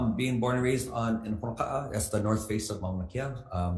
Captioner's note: speaks foreign language